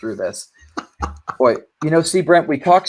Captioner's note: laughing amusingly